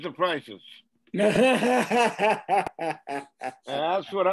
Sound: man laughs

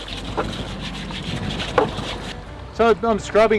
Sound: scrubbing sounds

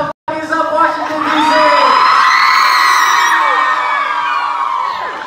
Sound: cheers

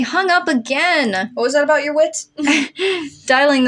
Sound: chuckle; chortle

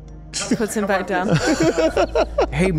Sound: laughs

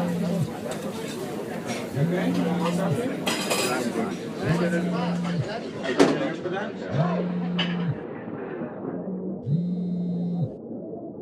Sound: phone Vibrates

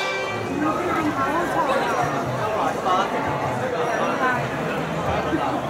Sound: general crowd sounds, no dialogue

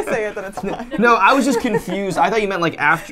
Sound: laughs

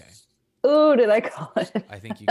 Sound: laughs

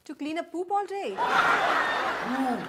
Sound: audience laughs

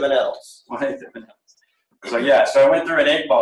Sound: laughs

